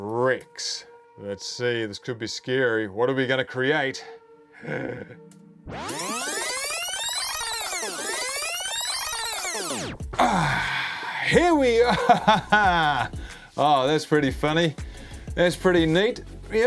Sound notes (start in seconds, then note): 4.6 groans; 11.7 laughs